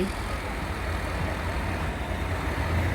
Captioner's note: loud truck noises